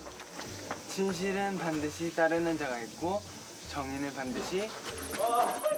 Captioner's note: reciting